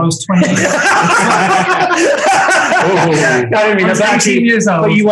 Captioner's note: group laughing